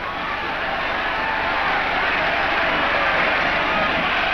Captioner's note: crowd cheers